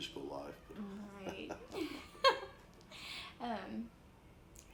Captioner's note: laughs